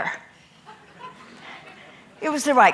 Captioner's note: audience laughing